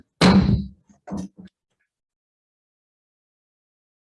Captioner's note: gavel banging